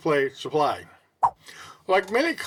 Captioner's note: swipe Sound